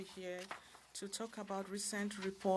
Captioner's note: speaking French